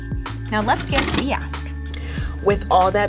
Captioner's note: videotape plays